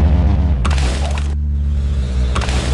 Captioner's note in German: Motorendröhnen wird leiser; Peitschende Geräusche